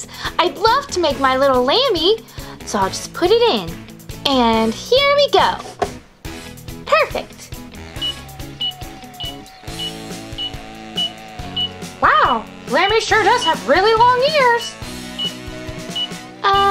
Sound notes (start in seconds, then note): 5.8 door closes; 7.9 timer beeps